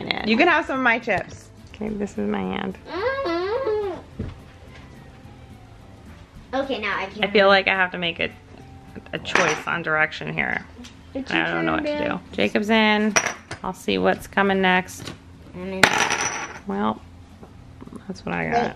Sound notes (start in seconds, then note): 15.9 poker chips jingles